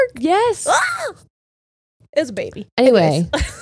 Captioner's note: screams